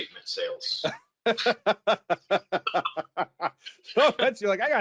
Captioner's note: both laugh